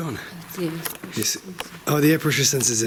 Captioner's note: woman speaking softly